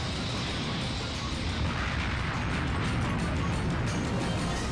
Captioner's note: explodes